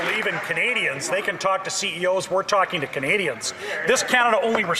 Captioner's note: some Applause